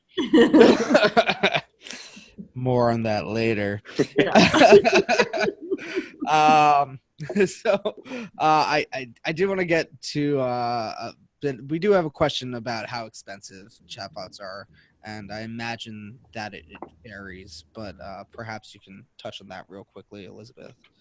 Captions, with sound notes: (all laughing) More on that later. (all laughing) So, I do want to get to, we do have a question about how expensive chatbots are and I imagine that varies, but perhaps you can touch on that real quickly Elizabeth.